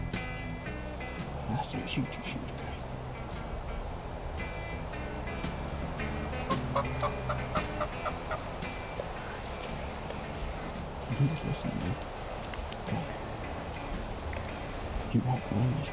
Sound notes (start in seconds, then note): 3.4 upbeat music; 6.0 turkey calling